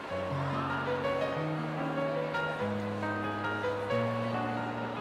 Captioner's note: crowd chattering